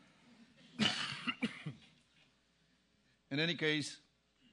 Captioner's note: cough